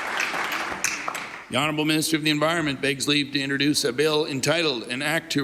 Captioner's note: applause